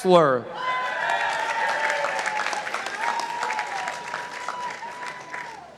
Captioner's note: participants applauding